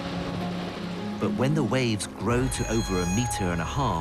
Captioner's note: voiceover